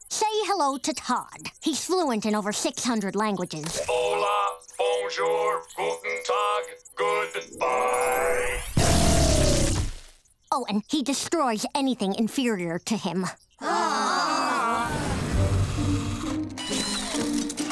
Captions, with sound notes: Say hello to Todd. He's fluent in over 600 languages. Hola. Bonjour. Guten tag. Good bye. Oh, and he destroys anything inferior to him. [groaning]